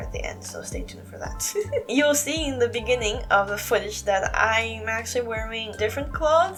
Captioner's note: chuckle